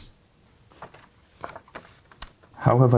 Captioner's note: paper rustling